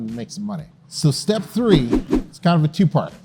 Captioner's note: text whooshing